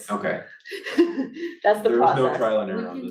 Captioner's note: laughs